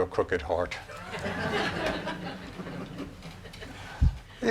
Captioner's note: laughing